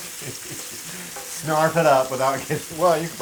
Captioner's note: laugh